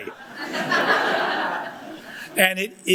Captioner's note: audience laughs